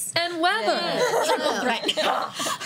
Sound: laughter

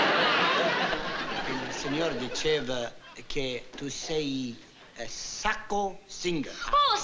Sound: speaking italian

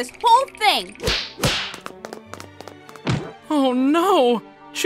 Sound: slapping

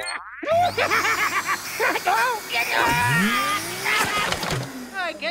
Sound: ghost laughing; groaning

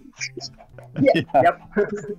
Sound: laughter

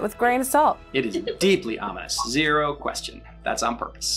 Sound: laughs

